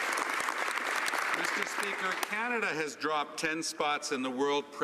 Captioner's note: some Applause